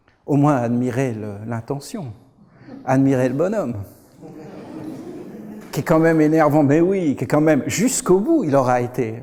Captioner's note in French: rires